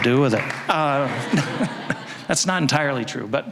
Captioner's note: audience laughing